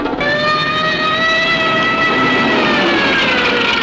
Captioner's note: sirens alarming